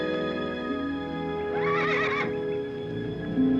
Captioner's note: horse neighing